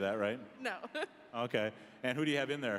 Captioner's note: laughing